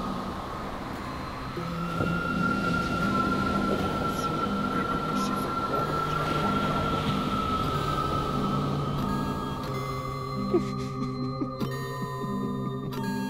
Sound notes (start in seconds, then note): 1.6 waves splashing; 10.4 Ian laughs maniacally